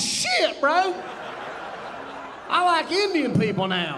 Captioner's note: audience laughing